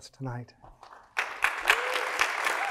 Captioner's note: audience applauding